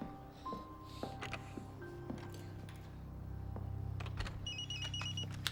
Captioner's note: dramatic orchestral music; door clicking; phone ringing